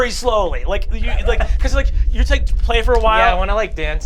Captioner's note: resounding vibrations